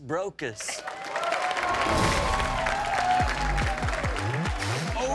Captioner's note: audience applauding; upbeat music